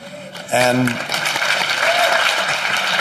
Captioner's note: applause